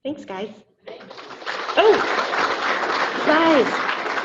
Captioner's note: audience applauding